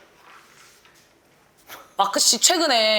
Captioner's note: hesitant